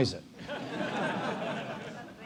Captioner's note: laugh